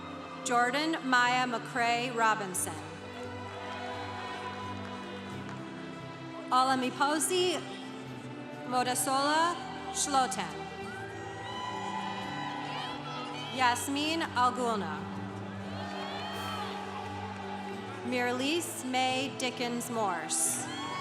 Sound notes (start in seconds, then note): 3.1 congregation applauding; 10.3 congregation cheering; 20.4 congregation applauding